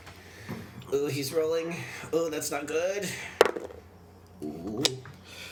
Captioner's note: dice roll